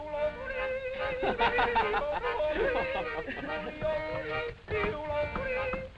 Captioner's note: laughter